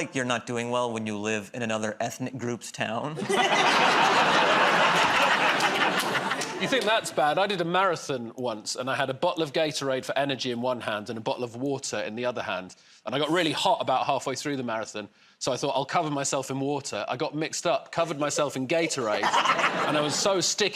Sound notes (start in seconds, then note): 3.2 laughter